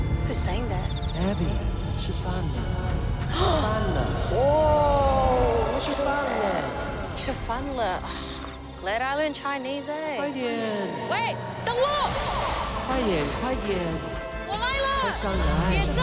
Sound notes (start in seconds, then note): 2.2 speaks chinese language; 6.6 gasps; 8.8 both speak chinese language; 12.3 both speak chinese language